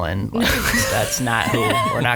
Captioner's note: laughs